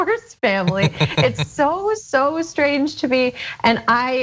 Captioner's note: laugh